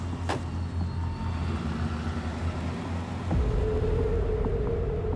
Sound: engine rumbling

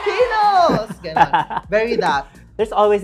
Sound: laughs

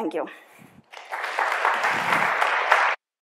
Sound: audience clapping

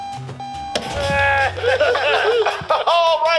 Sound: laughing

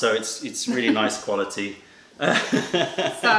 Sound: laughter

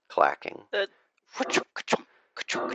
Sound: imitates minecart sounds

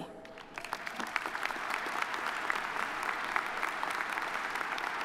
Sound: audience applauding

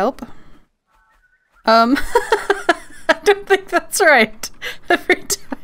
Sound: laughs; laughing

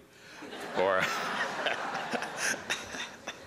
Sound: laughter

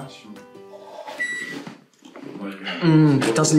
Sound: microwave beeps

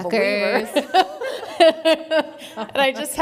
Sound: laughs

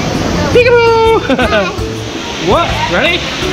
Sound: laughter

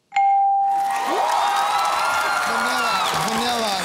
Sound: cheering and applause

